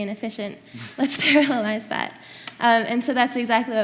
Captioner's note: laughs